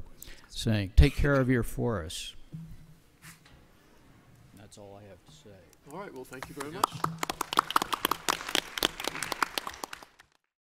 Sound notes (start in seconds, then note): 6.0 audience applauds